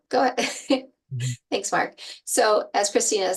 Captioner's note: laughing